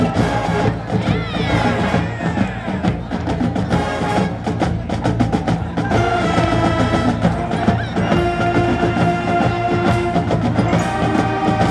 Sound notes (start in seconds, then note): 1.7 crowd exclaiming